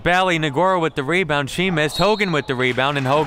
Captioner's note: referee blows whistle